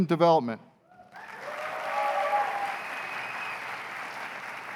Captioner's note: cheers and applause